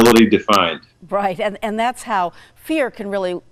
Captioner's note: chuckles